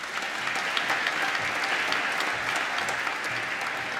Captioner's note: applause